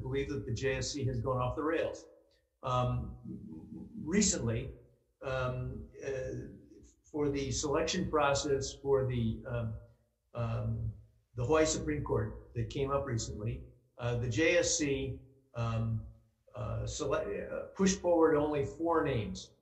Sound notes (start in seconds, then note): 3.8 speaking in foreign language